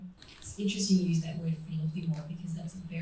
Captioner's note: foreign language